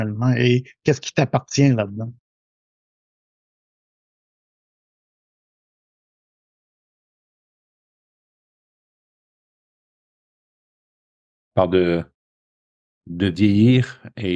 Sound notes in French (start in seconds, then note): 3.2 Silence